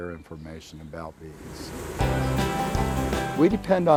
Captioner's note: bees buzzing